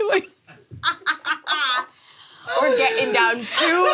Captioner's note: laughing